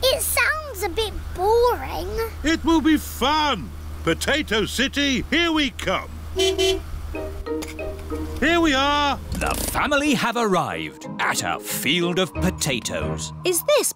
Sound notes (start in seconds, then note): 6.3 honks horn